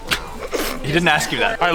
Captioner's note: laughter